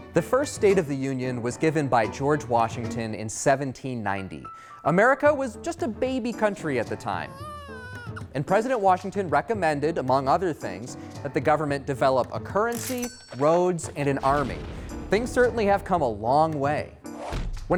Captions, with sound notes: The first State of the Union was given by George Washington in 1790. America was just a baby country at the time. (baby crying) And President Washington recommended, among other things, that the government develop a currency, roads, and an army. Things certainly have come a long way.